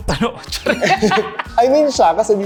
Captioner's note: laughs